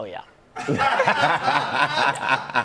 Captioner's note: laughter